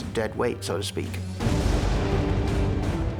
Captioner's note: lightning crashes